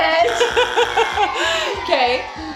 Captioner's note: buzz; audience booing